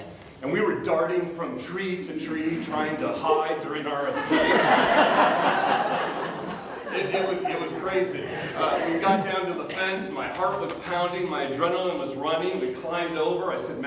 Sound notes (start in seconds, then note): 4.1 audience Laughter